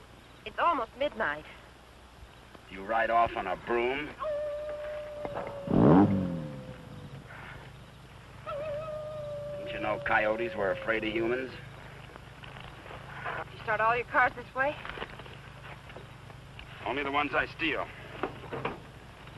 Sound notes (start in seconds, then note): 4.0 coyote howling; 6.4 engine rumbling